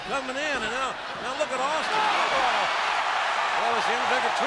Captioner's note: crowd cheers